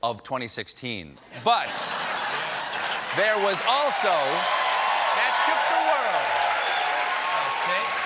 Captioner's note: applause